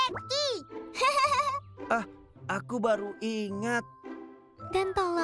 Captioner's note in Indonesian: Pinkfong terkekeh